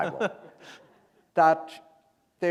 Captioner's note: laughter